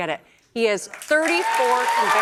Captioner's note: cheers and applause